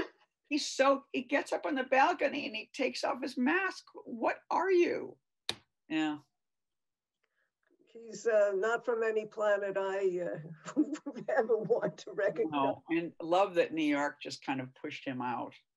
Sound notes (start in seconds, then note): 10.6 laughing